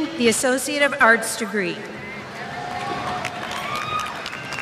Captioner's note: applause